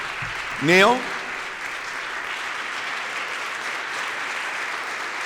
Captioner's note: applause